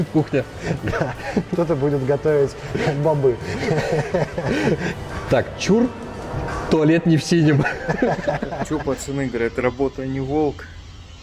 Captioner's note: laugh